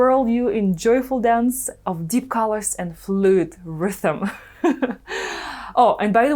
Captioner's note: laughs